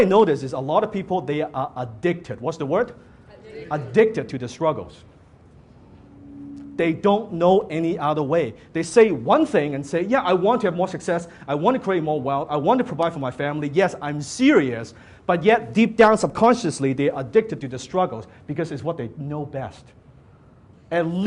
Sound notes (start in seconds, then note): 3.4 audience Members in unison